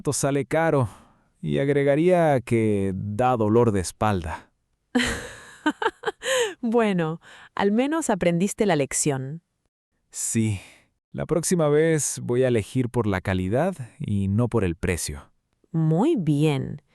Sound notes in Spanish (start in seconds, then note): 4.9 risas